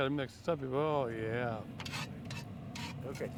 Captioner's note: scraping sound